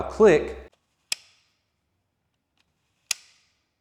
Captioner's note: clicking